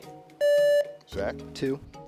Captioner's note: contestant beeping